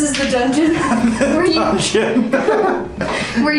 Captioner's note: laughter